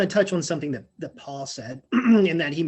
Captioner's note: clearing throat